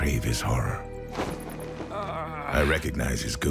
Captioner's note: cape flutters